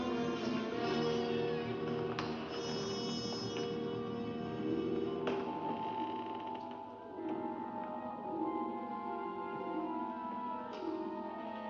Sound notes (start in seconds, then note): 0.1 secret door creaks open; 3.9 ominous music; 7.0 eerie music